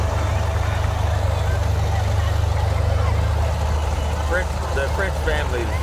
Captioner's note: people chatter; revving continues